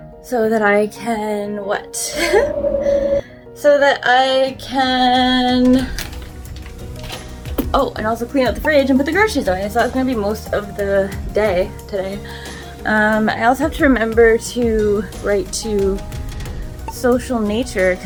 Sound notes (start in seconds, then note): 2.0 giggles